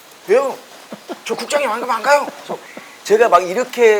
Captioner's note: laugh